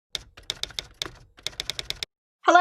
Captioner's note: clicking